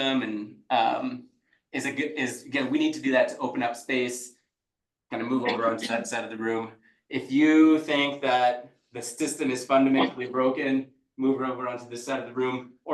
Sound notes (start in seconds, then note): 5.1 people chattering distantly